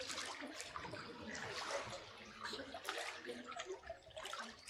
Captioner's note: water splashing